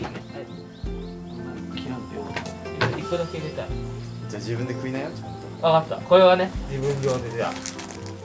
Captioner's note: laughs